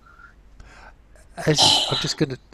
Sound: sighs

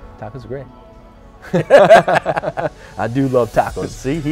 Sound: laughing

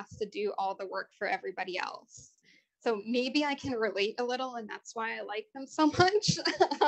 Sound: laughter

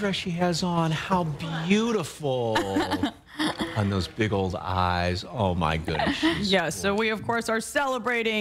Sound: laughter

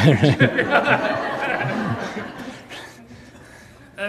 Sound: audience laughs

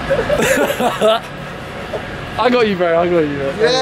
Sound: laughing

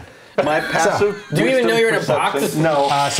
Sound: laughing

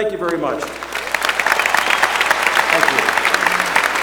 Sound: applause

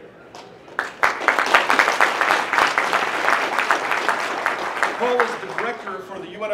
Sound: applause

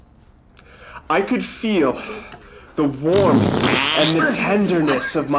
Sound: fart noise

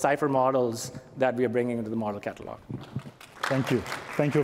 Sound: applause

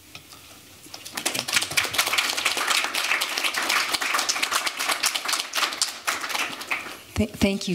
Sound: applause

